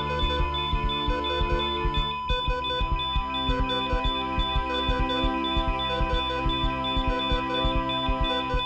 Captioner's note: dramatic music; heart monitor flatling